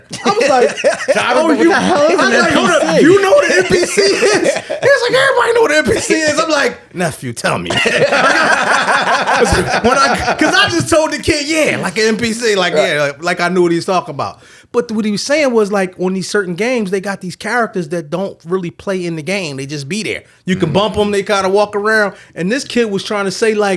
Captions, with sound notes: I was like, oh, you know the NPCs. He was like, everybody know the NPCs. I'm like, nephew, tell me. (all laughing) 'Cause I just told the kid, yeah, like an NPC, like, yeah, like I knew what he was talking about. But what he was saying was like, when these certain games, they got these characters that don't really play in the game, they just be there. You can bump them, they kinda walk around, and this kid was trying to say like,